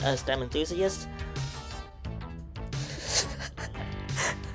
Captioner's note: laughing